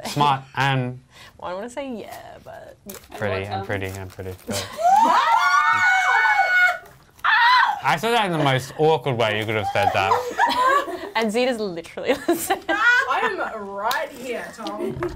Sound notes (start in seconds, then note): 4.7 girls screaming